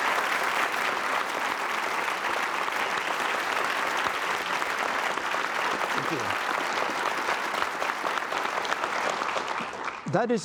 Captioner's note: appause